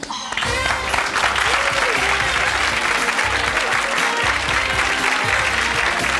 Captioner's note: upbeat music; clapping